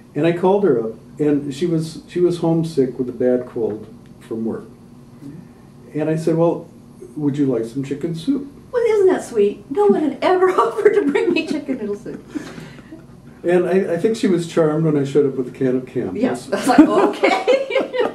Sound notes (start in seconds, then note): 10.9 laughter